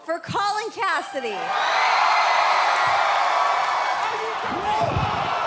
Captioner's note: crowd cheering